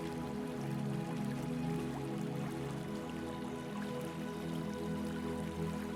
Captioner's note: water trickling